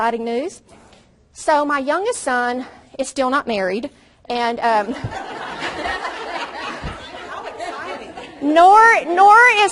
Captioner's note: audience laughs loudly